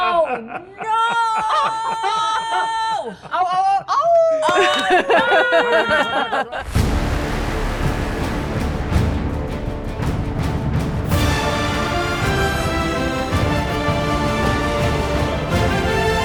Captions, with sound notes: - Oh no. - Oh, oh, awoo. (participants laughing)